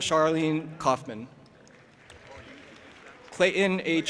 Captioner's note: audience applauding and cheering